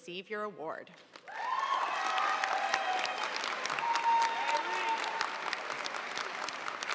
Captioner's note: audience cheering and applauding